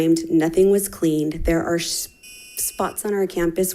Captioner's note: timer beeping